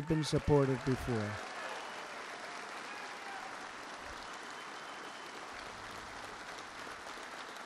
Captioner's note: applause